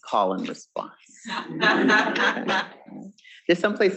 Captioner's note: students laughing